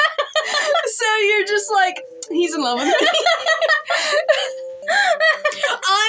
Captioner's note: laughing; laugh; laughing